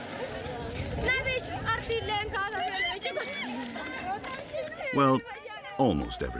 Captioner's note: people chattering